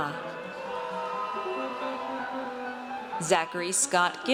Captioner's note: audience cheers